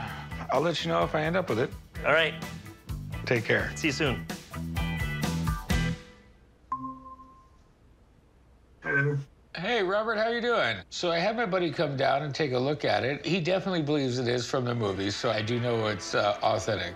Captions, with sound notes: - I'll let you know if I end up with it. - All right. - Take care. - See you soon. [computer dings] - Hey. - Hey, Robert, how are you doing? So I had my buddy come down and take a look at it. He definitely believes it is from the movie, so I do know it's authentic.